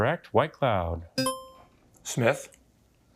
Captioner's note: buzzer beeps